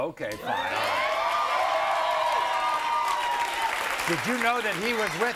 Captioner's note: audience cheers